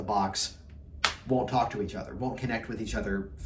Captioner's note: slapping hands